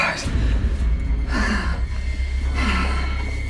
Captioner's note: screams. Heavy Breathing